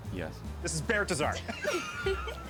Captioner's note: both cracking up